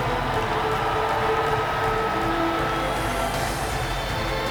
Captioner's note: audience cheers